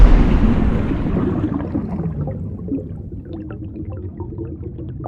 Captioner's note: water sounds